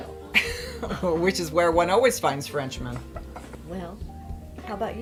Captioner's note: laughs